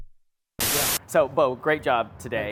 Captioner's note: television static